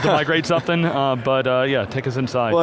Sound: laughs

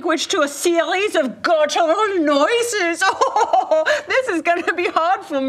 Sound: imitates German accent; laughs

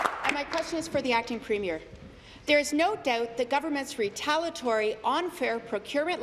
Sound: applause

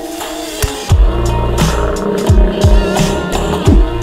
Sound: crocodile Sound

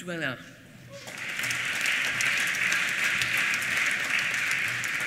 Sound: applause

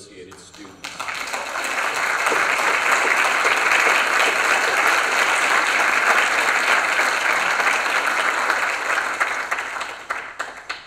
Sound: applause

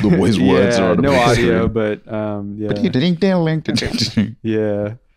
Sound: imitating an old-timey piano riff

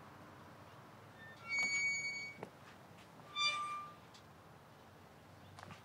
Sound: gate creaks

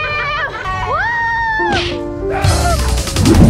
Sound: screams; upbeat music playing

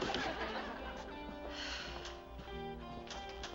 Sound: sighs

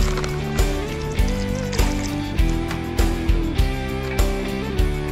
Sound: water trickling

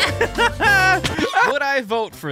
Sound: laughing

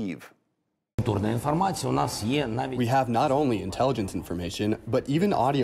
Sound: through translator

